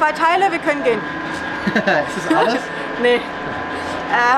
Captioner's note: laughs